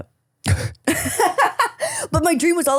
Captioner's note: laughing